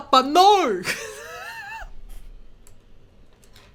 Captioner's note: laughs